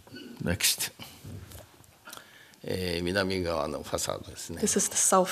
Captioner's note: speaking japanese